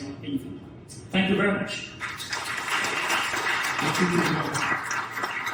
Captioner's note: audience applauds